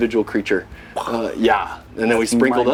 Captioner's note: whooshes air